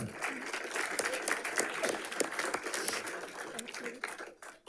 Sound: audience applauding

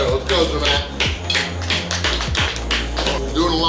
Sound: applauding

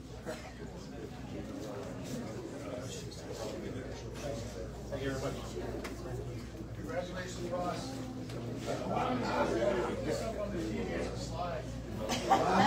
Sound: indistinct chatter; audience laughs

